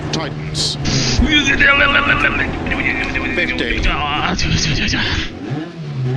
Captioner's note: undefinable vocal sounds of concern